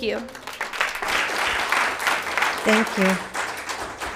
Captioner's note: applauds